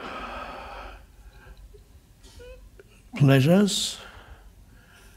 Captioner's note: deep breathing